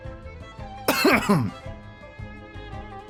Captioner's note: cough